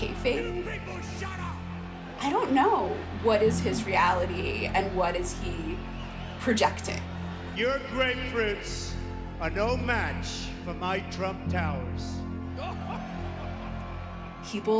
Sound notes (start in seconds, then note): 0.1 soundbite of archived recording; 8.6 soundbite of tv show, "wrestlemania"